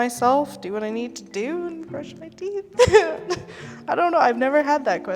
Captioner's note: laughs